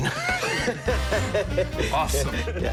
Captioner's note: laughing